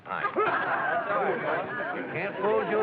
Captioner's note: excited chatter